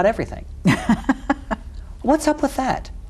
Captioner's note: laughs